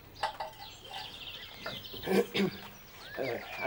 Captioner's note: Pod clears his throat